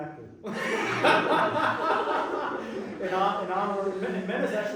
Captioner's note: laughter